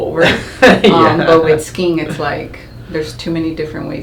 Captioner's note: chuckles